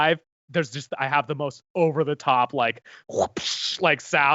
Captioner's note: imitates an animal